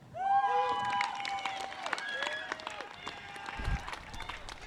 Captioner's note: audience claps and cheers